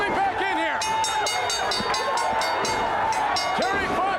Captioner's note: bell ringing